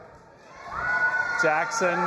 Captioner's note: audience applauding and cheering